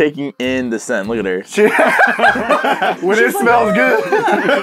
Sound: manly, totally not high-pitched, laughter

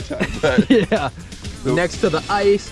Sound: laugh

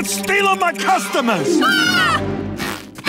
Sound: screaming

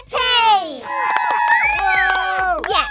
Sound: cheering

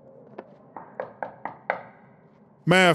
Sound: knock

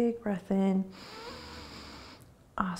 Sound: inhaling

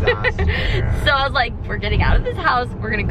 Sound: laughs

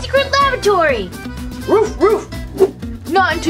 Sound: dog barking

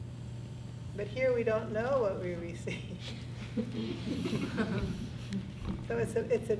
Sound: class laughs

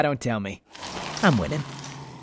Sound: ghouls munching

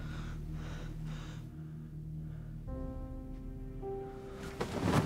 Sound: scraping

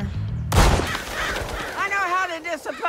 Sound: gunshot fires

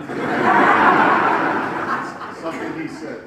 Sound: audience laughs

